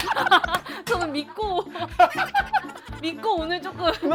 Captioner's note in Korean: 빵터짐